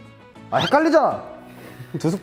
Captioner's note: yells!